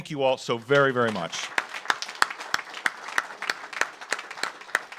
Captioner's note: audience applauds